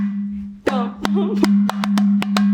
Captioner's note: hums; drum percusses